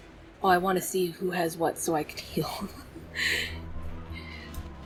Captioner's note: laughs